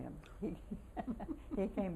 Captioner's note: laughter